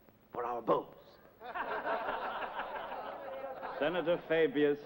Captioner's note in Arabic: يضحك أعضاء مجلس الشيوخ